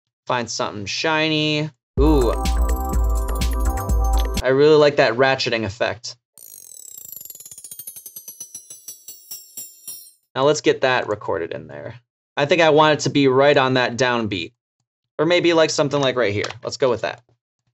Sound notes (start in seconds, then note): 6.4 ratcheting effect